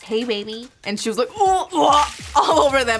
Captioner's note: retches